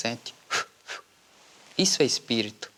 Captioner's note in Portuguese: Sopro